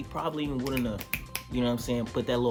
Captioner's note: fingers snap